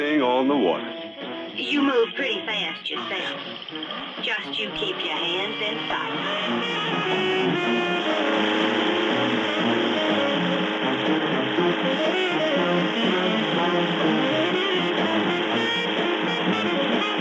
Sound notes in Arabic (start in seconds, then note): 6.2 هدير محرك القارب